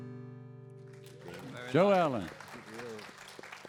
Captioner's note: audience applauds